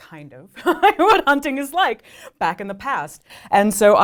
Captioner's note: laughs